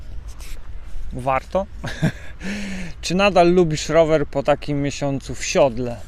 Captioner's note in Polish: śmiech